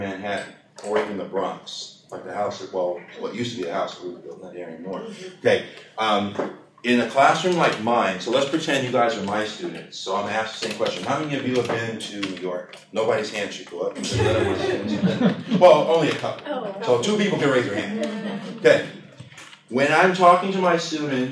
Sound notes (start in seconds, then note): 14.0 laughter